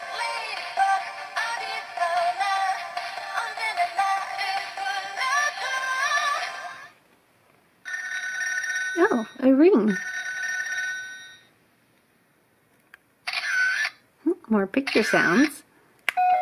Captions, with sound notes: (telephone ring) Oh, a ring. (telephone ring) (camera clicks) More picture sounds.